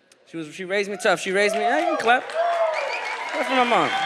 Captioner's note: audience cheers